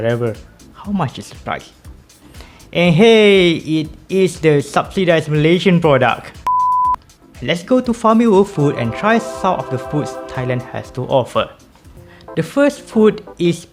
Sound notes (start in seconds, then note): 6.4 beep